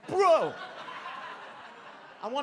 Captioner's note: audience laughs